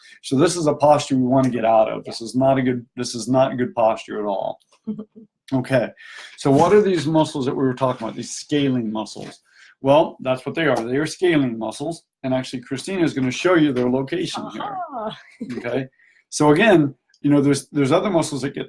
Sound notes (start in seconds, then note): 14.3 laughs